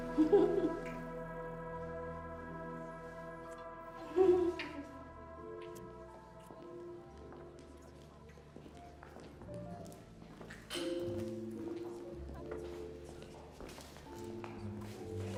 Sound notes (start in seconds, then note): 0.0 Abigail giggling; 4.0 people chattering; 5.1 light jazzy piano music